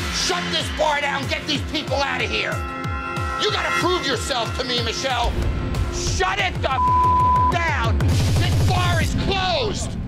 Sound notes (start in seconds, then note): 6.7 beep